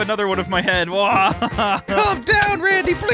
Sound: laughing

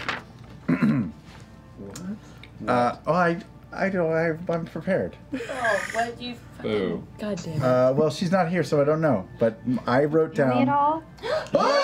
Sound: clears throat

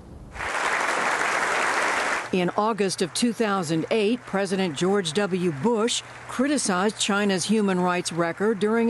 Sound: applause

